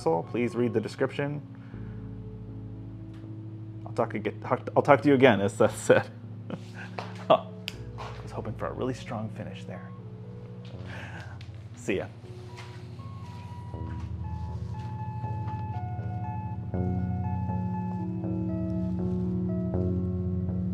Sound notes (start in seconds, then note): 3.5 verbally stumbles disasterously; 6.5 laughs